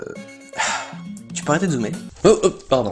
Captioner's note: sigh